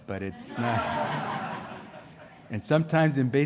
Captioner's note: laughter